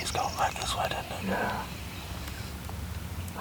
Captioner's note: whispering